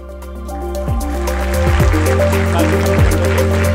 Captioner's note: applause